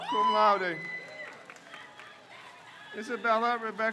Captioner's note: crowd cheers